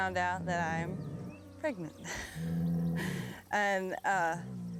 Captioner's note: laughs